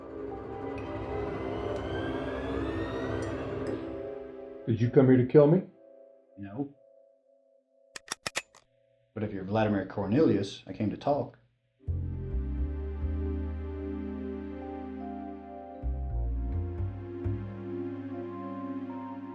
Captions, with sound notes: - Did you come here to kill me? - No. (gun cocks) But if you're Vladimir Cornelius, I came to talk. (slow introspective music)